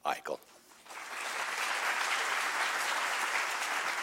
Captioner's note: audience applause